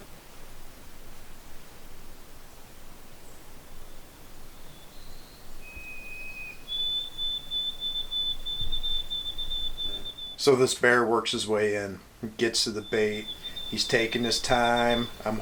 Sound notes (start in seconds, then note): 6.3 bird whistles